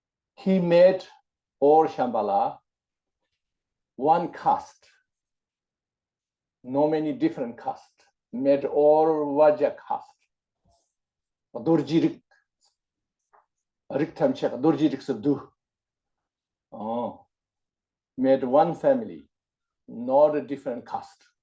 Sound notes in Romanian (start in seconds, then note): 11.2 în tibetană